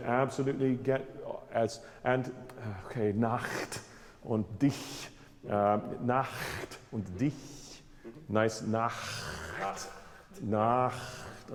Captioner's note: speaks German